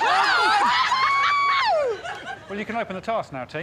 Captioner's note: Morgana screams; screaming